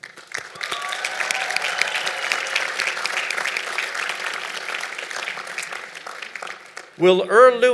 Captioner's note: applause